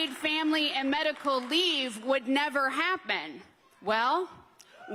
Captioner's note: applause